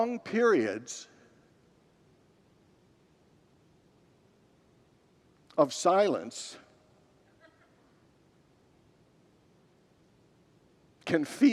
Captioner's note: long pause